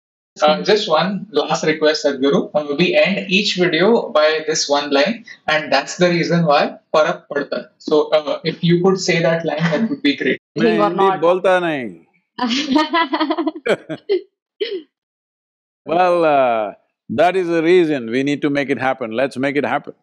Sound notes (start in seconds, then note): 15.3 both laugh